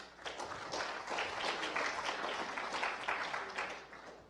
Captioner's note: applause